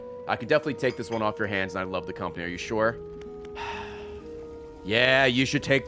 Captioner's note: sighs